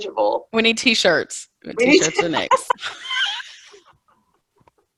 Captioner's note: all laughing